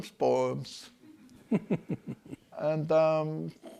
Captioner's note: and class chuckle